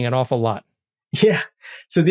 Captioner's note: laugh